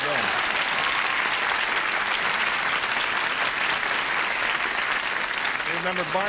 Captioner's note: applause